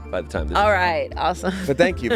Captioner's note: laughs